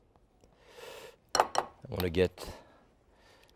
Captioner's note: bowl clanging